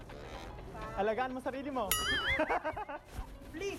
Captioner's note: laughs